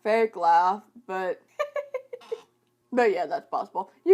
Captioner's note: laughs